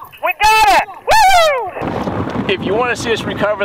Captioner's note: exclaims